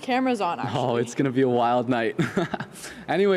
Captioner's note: chuckles